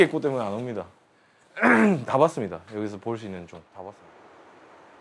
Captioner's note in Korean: 목을 가다듬음